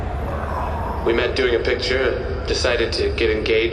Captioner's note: studio audience and both “ooh”